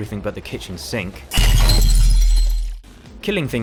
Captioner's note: crash